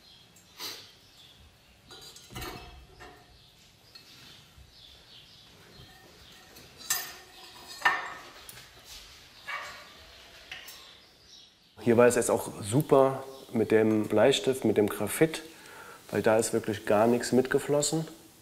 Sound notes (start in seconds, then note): 1.9 clinking; 3.2 birds chirping; 5.8 clinking